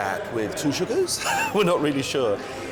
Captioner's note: laughs